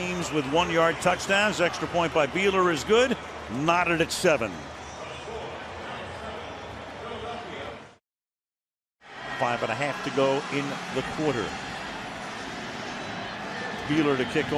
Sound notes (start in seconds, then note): 5.4 pa announcement